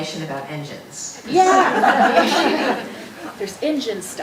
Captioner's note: audience laughing